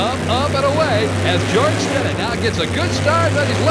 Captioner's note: voiceover